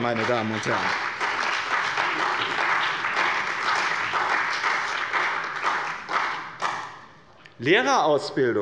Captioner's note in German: Beifall bei dem BÜNDNIS 90/DIE GRÜNEN und der CDU